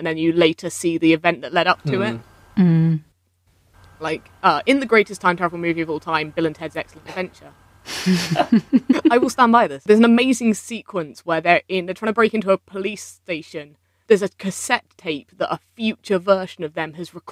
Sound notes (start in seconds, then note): 8.0 laughing